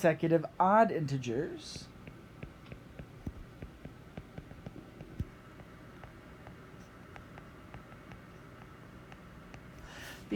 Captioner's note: writing